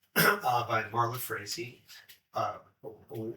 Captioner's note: throat clearing